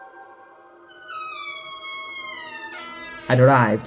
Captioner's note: door creaks open